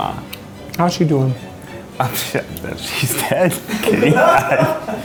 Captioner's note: laughs